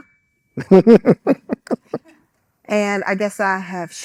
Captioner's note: laughing